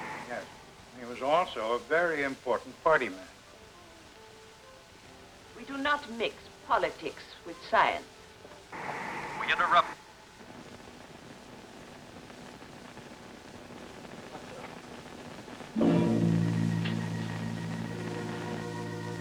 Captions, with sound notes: - Yes, he was also a very important party man. - We do not mix politics with science. - [Man on Radio] We interrupt... (static crackling) (tense instrumental music)